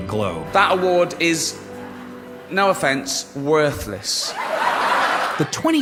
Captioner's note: laughter